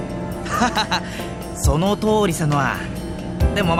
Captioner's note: laugh